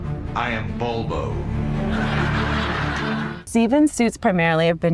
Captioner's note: audience laughs